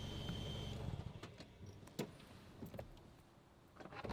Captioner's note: engine shuts off